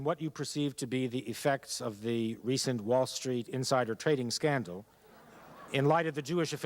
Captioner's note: laughter